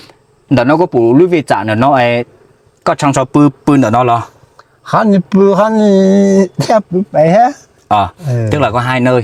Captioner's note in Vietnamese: khịt mũi